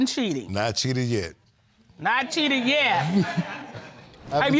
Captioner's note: audience laughs